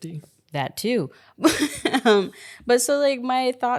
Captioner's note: laughs